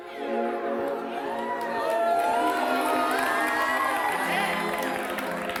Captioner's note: audience cheering